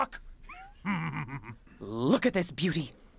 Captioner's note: Theo chuckles